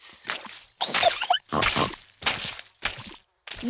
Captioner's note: giggles and snorts